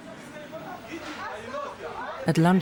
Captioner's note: people chattering